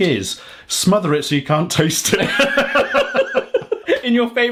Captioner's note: both laughing